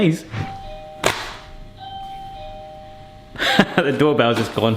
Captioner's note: doorbell rings